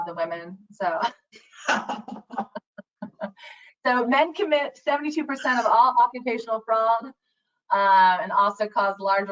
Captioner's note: laughs